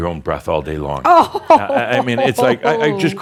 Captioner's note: laughs